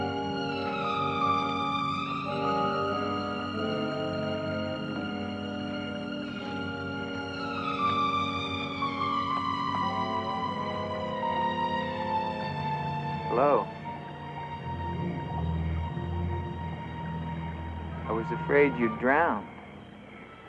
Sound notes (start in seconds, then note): 1.1 mysterious music continues; 14.2 water trickling; 20.2 soft mysterious music